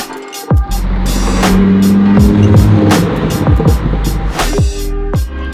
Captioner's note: car engine roars